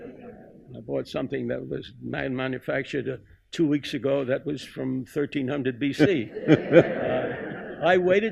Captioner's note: laughter